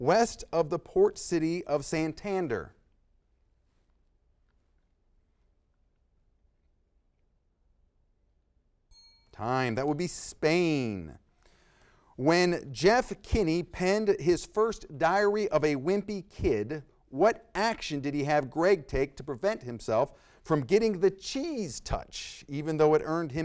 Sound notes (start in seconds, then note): 8.9 bell dings